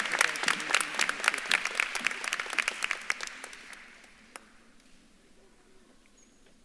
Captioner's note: speaks faintly